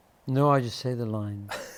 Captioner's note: laughter